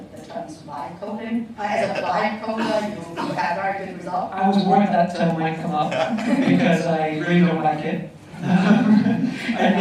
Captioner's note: laughter